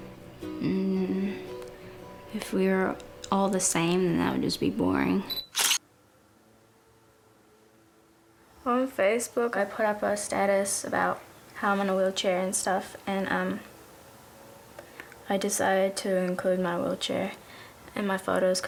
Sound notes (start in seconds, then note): 5.4 camera shutter sound